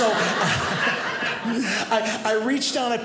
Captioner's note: audience laughing